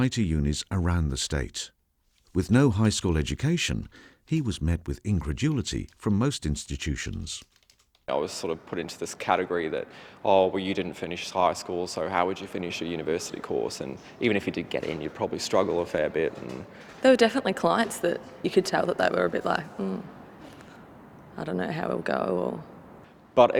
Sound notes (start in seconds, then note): 7.0 computer keys clicking